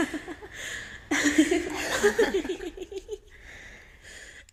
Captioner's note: maniacal laughter